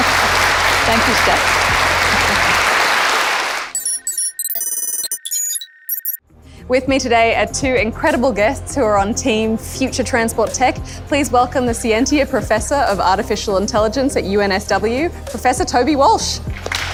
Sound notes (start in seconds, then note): 3.7 electronic beeping; 16.7 applause